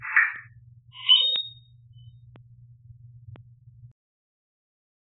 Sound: squeal

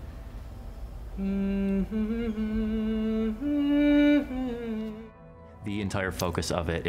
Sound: humming

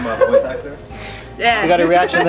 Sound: laughter

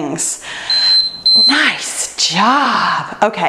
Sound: timer beeps

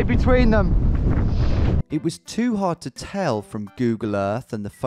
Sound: voiceover

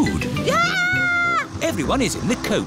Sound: shrieks

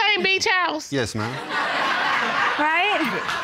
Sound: laughter

